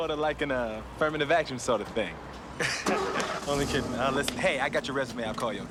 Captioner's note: chuckles